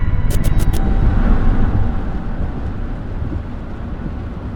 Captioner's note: engine rumbling